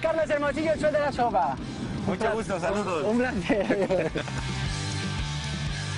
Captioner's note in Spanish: risas